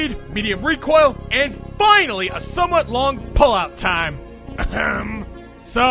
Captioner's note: ahem